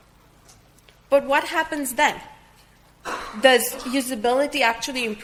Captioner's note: audience member coughing